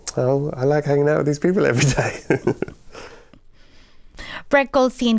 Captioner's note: laughter